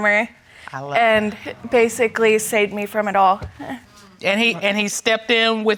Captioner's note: chuckles